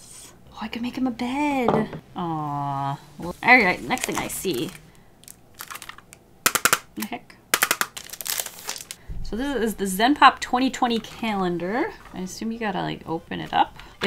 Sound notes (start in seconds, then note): 6.2 tapping; 7.4 more tapping